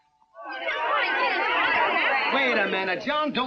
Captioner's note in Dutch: boze stemmen